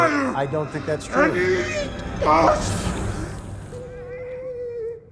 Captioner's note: whining